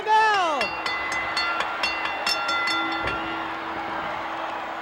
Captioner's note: bell ringing